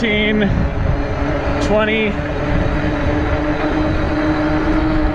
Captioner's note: wheels whirring